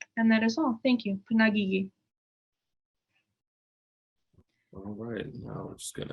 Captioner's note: non-english